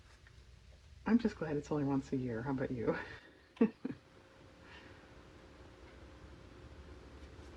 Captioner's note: laughs